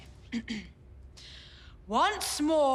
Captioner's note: clears throat